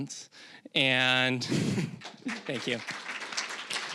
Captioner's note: chuckling; applause